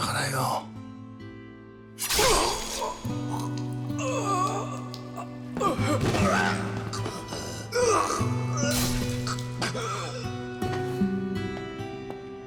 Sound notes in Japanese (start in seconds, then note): 4.0 叫び声; 4.7 うめき声